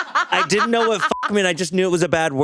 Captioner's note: laughs; beeps